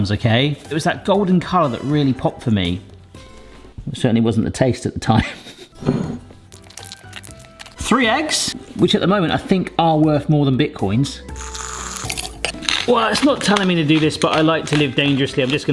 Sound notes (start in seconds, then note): 11.3 whirring